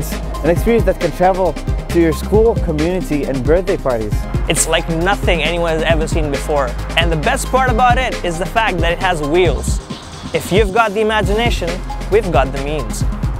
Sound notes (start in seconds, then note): 4.3 in English